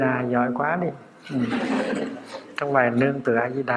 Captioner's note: audience laughing